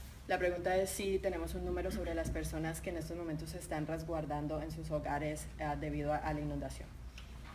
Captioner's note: speaking in Spanish